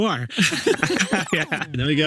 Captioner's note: graphic buzzes